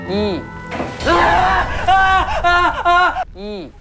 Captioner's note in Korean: 드르륵